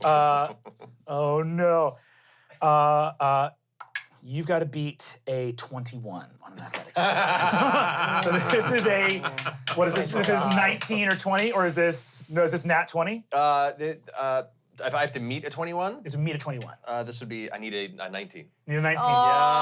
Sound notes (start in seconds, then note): 0.0 chuckles; 6.8 laughs